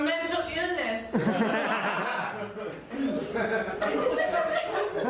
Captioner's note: audience laughs